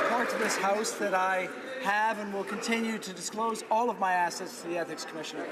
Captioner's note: some Applause